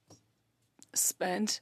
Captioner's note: speaking French